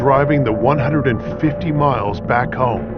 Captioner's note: air whooshihing